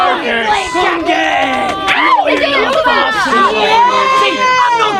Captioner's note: audience jeering